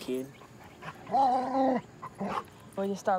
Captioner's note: growling